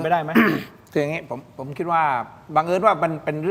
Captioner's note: clears throat